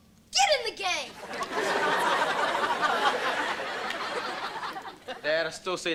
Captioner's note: audience laughter